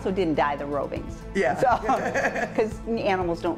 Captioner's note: laughing